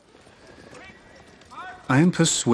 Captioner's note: man shouts in the distance